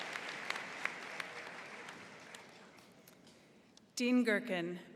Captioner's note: applause